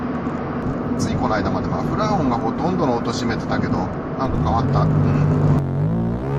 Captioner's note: exhaust sound